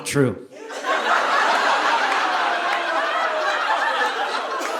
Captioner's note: audience laughing